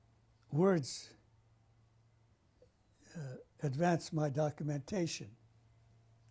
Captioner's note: pauses for 3 seconds